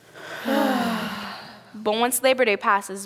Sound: sighing

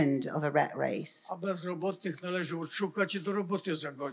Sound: foreign language

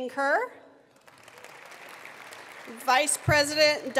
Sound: attendees applauding

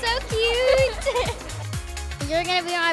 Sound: giggling

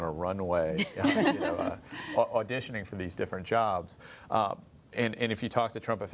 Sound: laughter

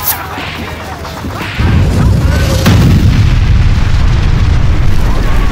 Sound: weapons bullets fly

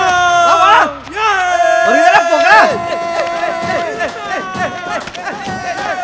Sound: joy full cheering

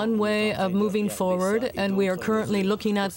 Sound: speaking French

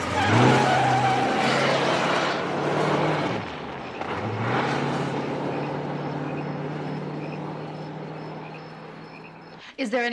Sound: tires squealing

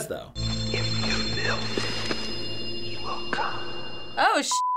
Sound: ghostly voice

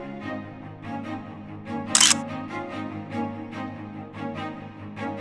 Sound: camera shutter clicks

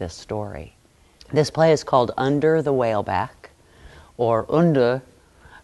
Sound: changes to thick, British accent

